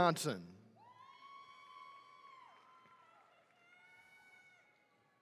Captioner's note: attendees cheering